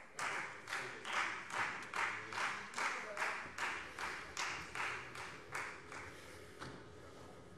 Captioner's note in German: Beifall Freie Demokraten